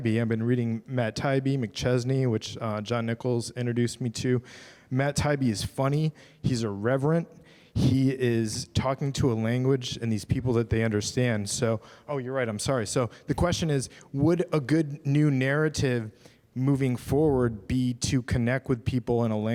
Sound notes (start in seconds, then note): none